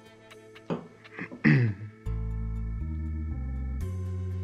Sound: clears throat

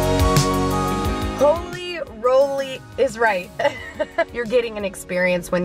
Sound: laughs

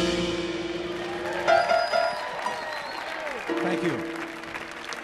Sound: audience applauding

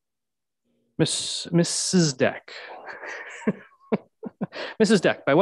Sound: laughs

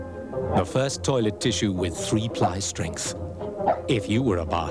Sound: dog barks

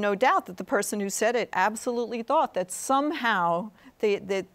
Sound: none

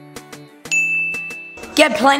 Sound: ding

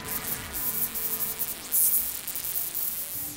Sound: fly buzzes

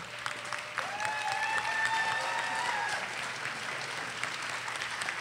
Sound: audience applauding

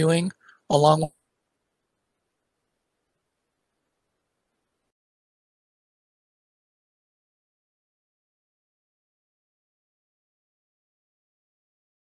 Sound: silence due to technical glitch

